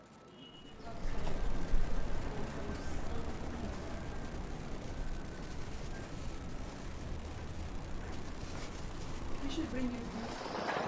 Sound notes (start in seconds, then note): 1.2 visitors chattering faintly